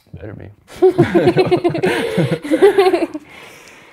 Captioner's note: laughs